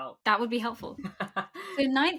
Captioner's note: laughs